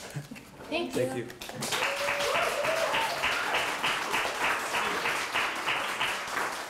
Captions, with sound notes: Thank you. Thank you. [APPLAUSE]